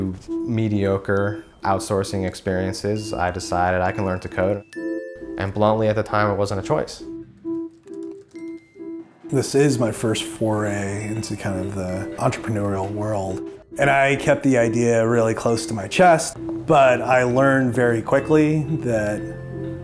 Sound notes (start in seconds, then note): 7.4 typing noises